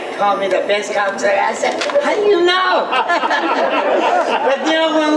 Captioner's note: everyone laughs